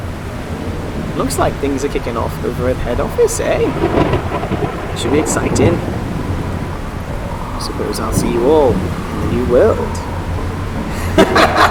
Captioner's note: voice getting more eldritch; laughter